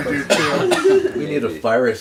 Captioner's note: coughing